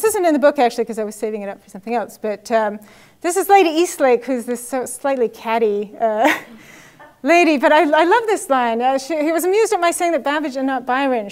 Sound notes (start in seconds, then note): 6.9 laugh